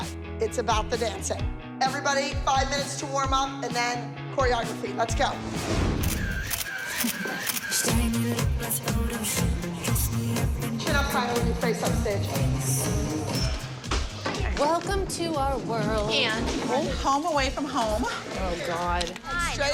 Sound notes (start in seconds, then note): 6.0 camera shutter clicking